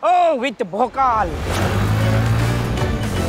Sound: bike revving

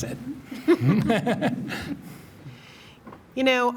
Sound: trustees laughing

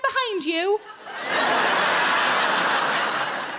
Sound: crowd laugh

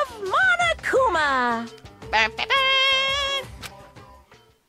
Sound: imitates horns blaring

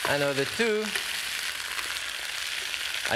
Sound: sizzling

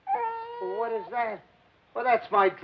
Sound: crying

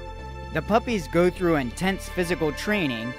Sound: voiceover

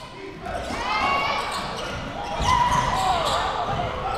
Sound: crowd cheering

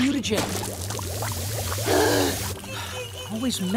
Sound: gasping

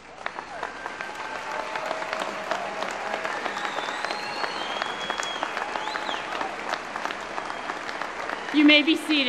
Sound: applause

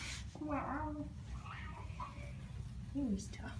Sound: mrow

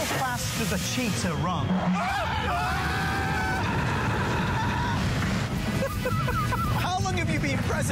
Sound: laughter

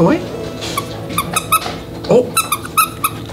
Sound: toy squeaks

